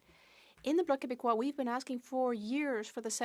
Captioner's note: speaking French